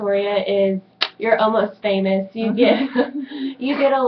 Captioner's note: laughs